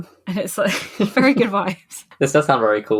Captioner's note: laughing; laughs